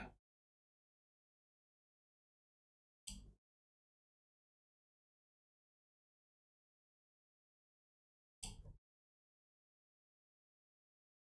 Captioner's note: silence